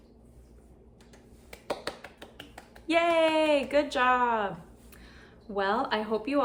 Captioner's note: applause